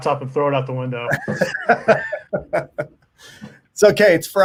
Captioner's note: laughing